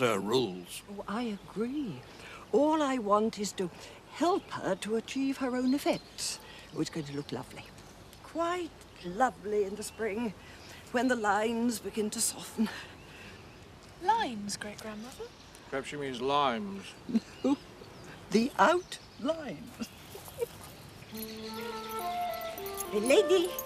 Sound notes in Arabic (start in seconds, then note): 16.3 الضحك